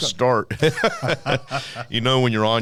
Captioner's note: laughing